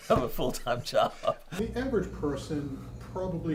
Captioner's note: laughing